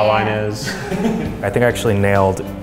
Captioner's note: laughs